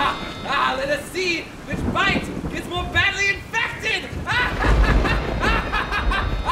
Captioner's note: devious laughter